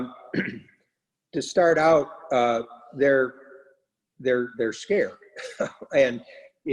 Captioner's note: laughs